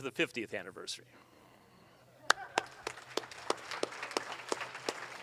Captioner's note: audience applauds